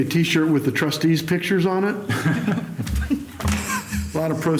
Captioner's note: laughter